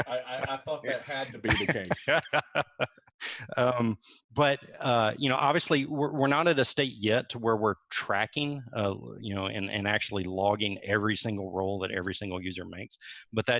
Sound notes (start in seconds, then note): 1.9 laughs loudly